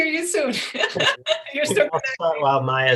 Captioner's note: laughs